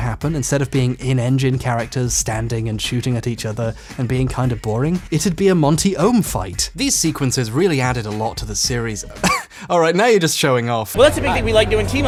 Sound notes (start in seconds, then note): 9.2 laughs